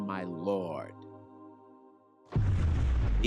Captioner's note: thunder rumbles